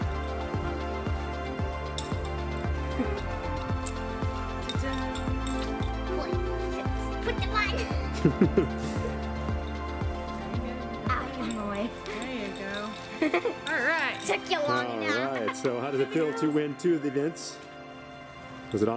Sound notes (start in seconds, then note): 0.1 dramatic music; 7.7 laughing